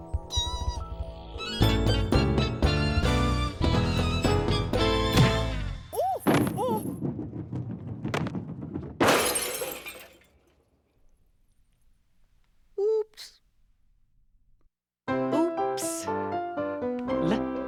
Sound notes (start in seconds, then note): 6.2 crystal ball rolls, then crashes; 16.6 making "l" sound